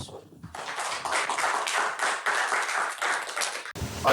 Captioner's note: applause